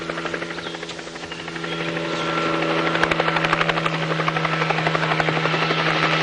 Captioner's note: sound of helicopter